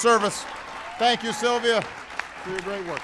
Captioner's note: applause